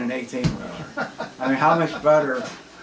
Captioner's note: laughs